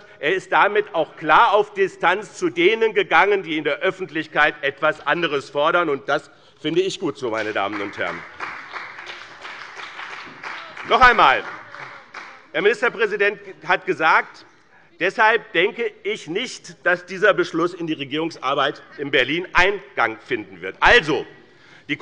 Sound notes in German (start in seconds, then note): 7.3 Beifall bei dem BÜNDNIS 90/DIE GRÜNEN und bei Abgeordneten der CDU